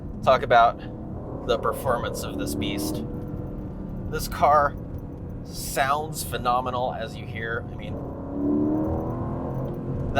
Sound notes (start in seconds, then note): 8.1 engine racing